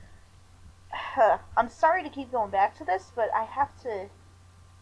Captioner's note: sighs